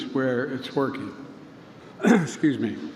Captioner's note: clears throat